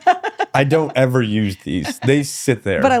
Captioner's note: laughing